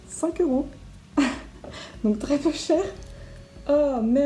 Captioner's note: laugh